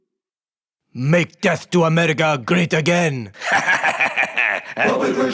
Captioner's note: laughs